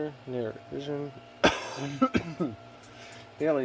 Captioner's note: coughs